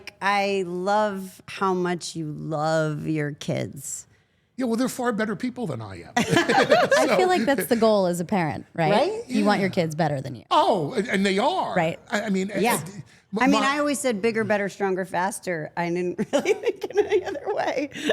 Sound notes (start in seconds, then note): 6.2 all laughing